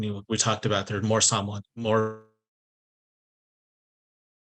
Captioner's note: audio cutting out